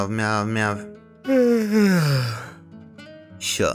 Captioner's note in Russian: Зевает